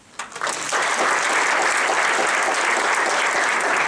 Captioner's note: audience applauding